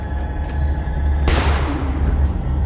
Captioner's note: gun fires